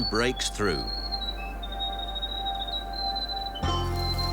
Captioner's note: birds trilling